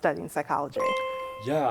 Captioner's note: chime